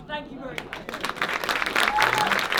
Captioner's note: applause